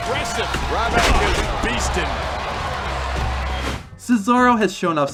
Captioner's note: crowd cheering